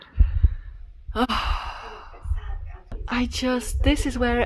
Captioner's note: sighs in 'what could've been'